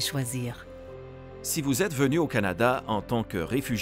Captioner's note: Voix off masculine